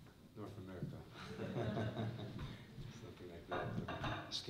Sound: laughter

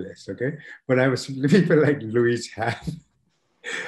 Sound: laughing

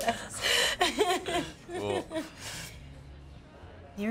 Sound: laughing

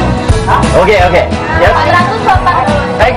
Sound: speaking indonesian

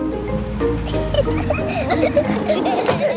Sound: children giggling

